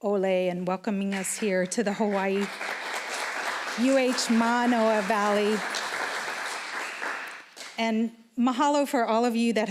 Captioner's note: applause